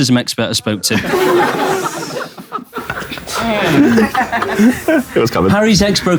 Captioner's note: people in room laughing